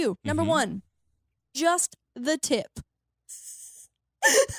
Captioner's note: laughs